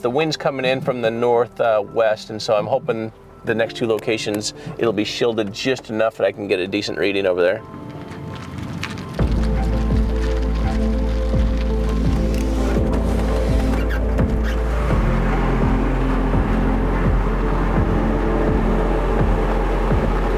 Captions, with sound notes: the wind's coming in from the north west and so I'm hoping the next two locations it'll be shielded just enough that I can get a decent reading over there. (gentle music begins) (truck engine roaring)